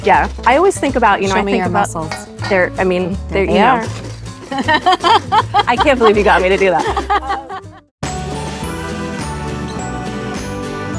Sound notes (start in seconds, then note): 4.5 laughing; 8.0 bright music